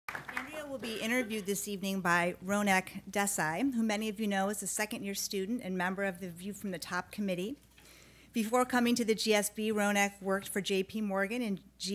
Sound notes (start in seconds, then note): 0.0 clapping